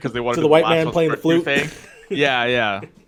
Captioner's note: laughs